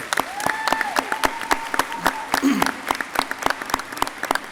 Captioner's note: audience clapping